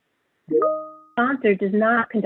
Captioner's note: chime